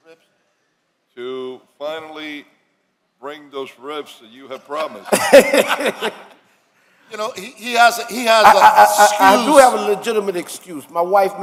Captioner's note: laughter